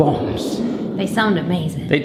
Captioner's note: fire roars